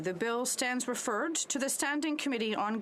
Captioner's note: speaking French